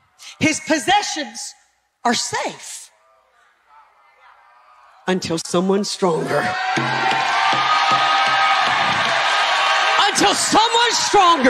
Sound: audience cheering

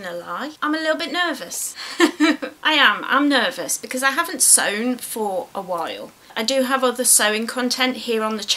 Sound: laughs

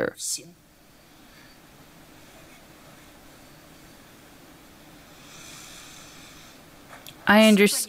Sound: silence

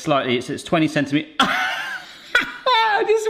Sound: laughs

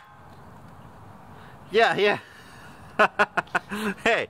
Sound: laughing

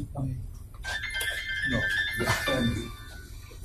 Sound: phone ringing

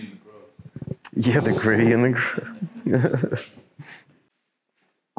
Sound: laughing

